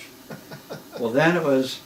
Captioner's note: laughs